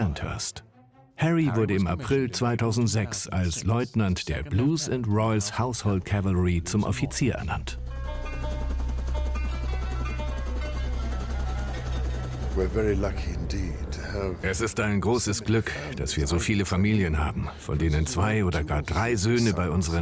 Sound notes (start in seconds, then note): 7.6 helicopter blades whirling